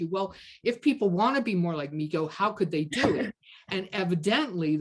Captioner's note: kaughs